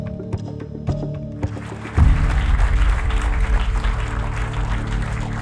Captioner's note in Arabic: الجمهور يصفق